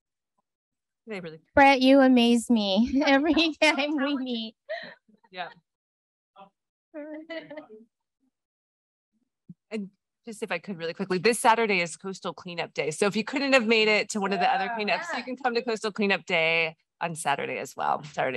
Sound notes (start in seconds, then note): 4.6 laughter; 7.2 laughter; 8.5 silence